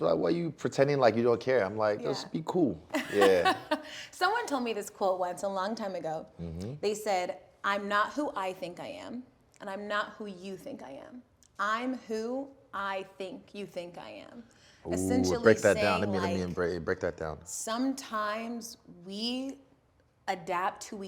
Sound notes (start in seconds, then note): 3.0 laughs